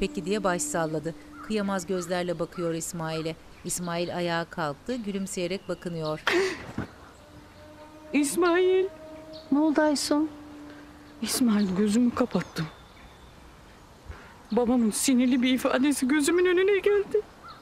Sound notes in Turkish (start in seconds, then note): 1.1 Karga sesi; 1.3 Kuş cıvıltısı sesi